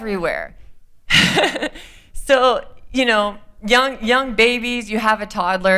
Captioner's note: laughter